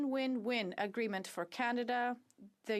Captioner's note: speaking French